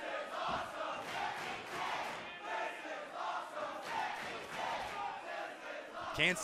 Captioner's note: fans chanting